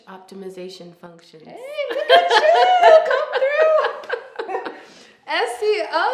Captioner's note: both laughing